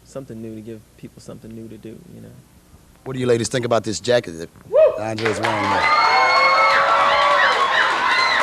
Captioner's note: applause